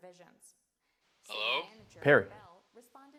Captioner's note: on phone